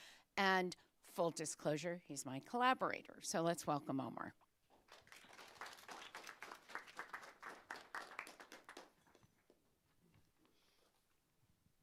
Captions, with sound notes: And full disclosure, he's my collaborator. So let's welcome Omar. (applause)